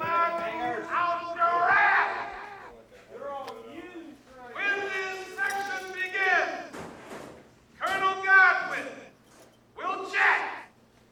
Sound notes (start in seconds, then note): none